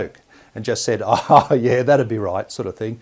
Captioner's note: laughs